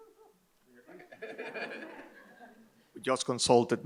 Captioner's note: Michael and audience laugh